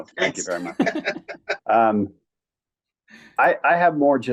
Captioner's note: panelists laughing